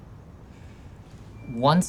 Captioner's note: exhales